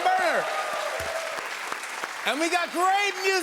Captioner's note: cheers and applause